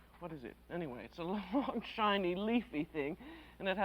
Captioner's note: chuckles